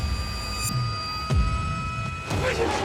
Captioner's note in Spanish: golpes